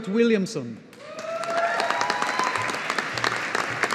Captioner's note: audience applauding